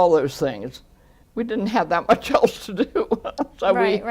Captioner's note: laughs